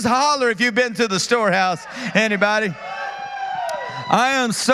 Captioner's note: applause